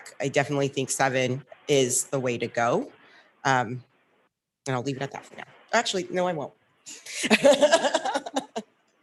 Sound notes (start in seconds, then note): 7.2 laughs